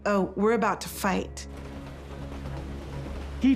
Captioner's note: train chugs